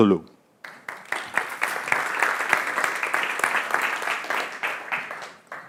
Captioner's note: audience applauding